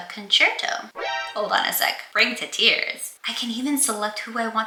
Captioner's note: metal gear solid alert